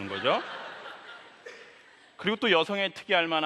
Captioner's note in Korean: 웃음